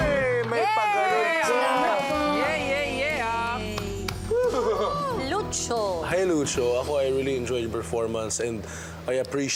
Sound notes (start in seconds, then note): 0.3 music fades; 4.2 judges cheering